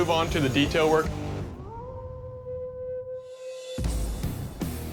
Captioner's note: howling